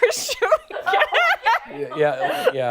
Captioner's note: laughter